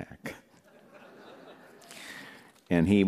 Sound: laughter

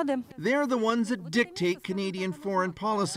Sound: speaking russian

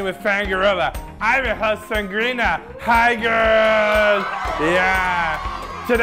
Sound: audience cheers

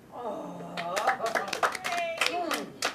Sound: clapping

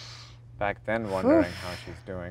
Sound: Gal exhales

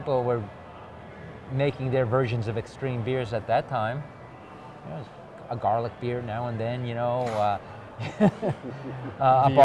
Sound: laughging

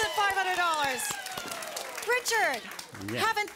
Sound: audience applause

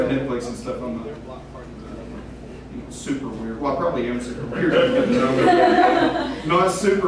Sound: laughter

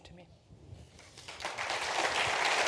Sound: applause

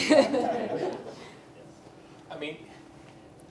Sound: group laughs

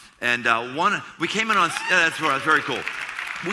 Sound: applause

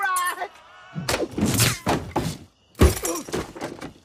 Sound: crash

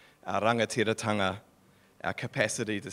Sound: speaking in foreign language

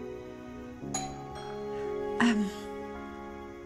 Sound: doorbell rings

